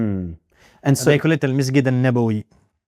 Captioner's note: Arabic